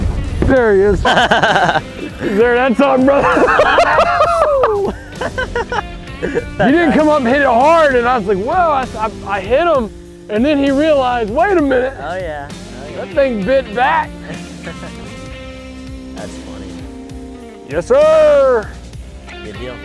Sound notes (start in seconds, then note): 2.2 laughing